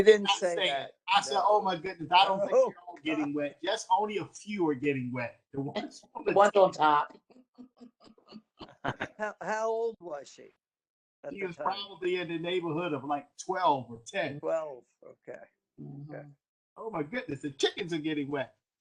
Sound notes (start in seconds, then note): 8.6 laughter